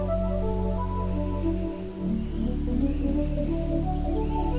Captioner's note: wonderment music; wind rushing; bird calling; trees soughing